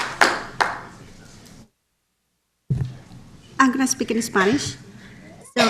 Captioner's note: applause